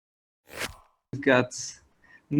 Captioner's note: logo whooshes